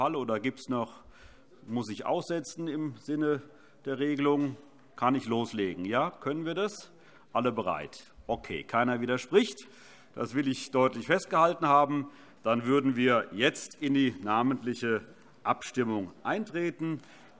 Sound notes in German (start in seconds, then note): none